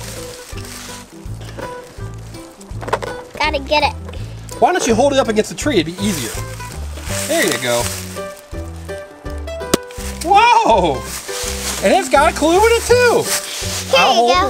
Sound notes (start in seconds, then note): 9.4 balloon pops